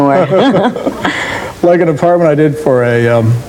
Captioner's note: laughs